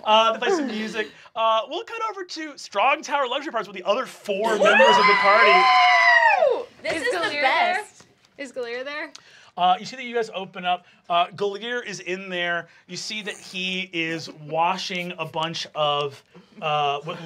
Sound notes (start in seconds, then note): 4.4 group screaming